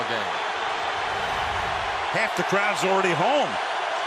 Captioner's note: cheering